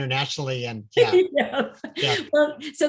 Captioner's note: laughs